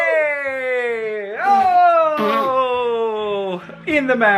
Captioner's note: cheering; spitting